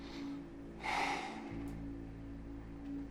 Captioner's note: sighing